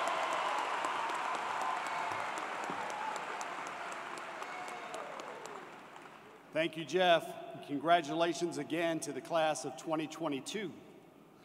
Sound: cheers and Applause

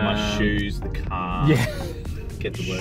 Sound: laughs

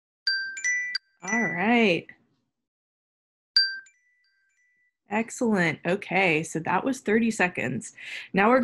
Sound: alarm Rings

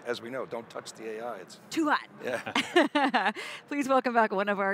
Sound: laughs

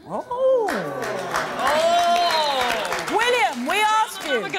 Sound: audience applauding

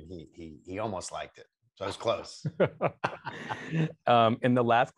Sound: both laughing

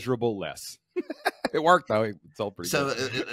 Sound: chuckling

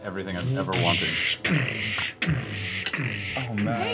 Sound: Doty walking sounds

